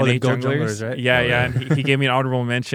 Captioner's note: laughs